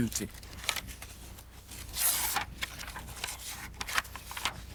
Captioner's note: papers rustling